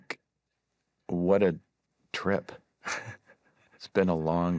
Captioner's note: chuckles